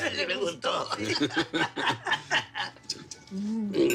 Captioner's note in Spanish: Risas